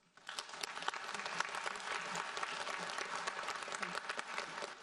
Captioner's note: audience applauds